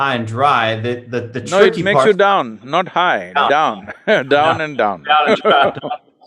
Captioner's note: laughs; Sadhguru laughs